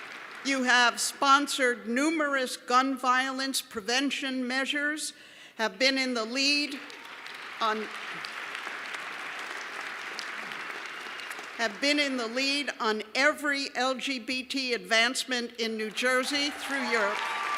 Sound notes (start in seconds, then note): 10.2 applause